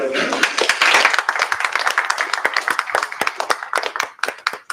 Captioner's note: applause